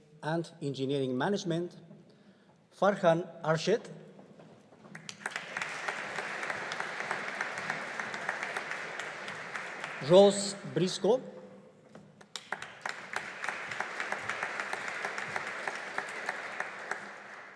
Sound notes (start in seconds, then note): 4.8 audience applauding; 12.2 audience applauding